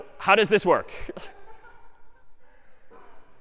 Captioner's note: laughter